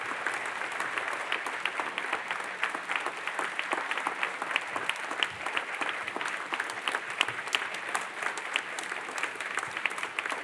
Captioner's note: applaudissement - applause